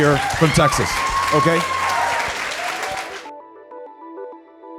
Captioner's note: audience cheering